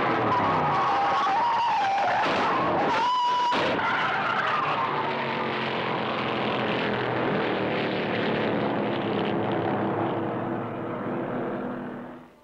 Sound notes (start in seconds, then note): 0.6 tires screeching; 3.8 car thudding